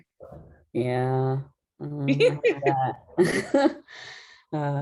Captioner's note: laughter